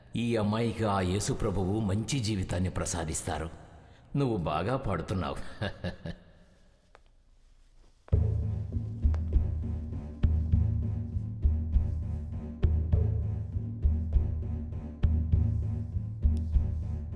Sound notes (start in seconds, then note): 6.6 footsteps; 14.6 background music